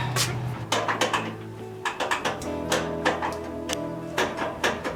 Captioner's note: tools clinking